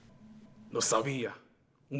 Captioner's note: Spanish